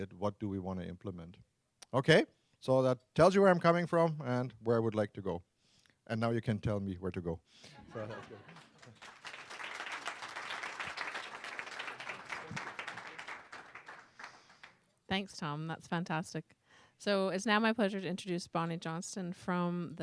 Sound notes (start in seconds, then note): 7.7 laughter; 10.6 applause